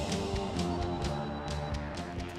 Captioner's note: cell phone ringing